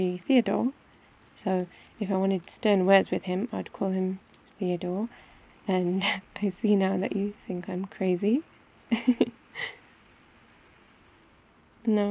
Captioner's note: laughs